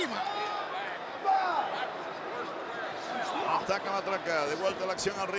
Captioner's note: applause